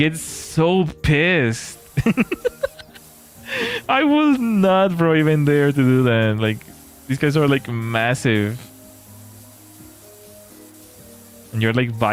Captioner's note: laughter